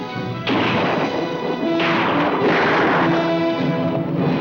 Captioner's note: gunshots